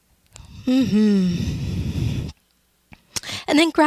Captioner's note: exhales loudly with a mmm-mmmmm sound